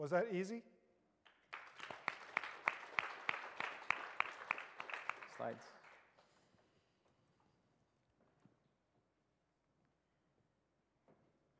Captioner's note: applause